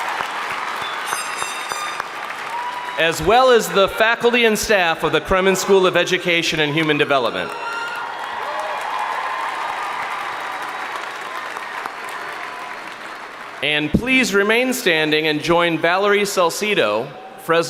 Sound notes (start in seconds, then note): 0.0 crowd applauding; 0.0 crowd cheering; 7.2 crowd applauding; 8.2 crowd cheering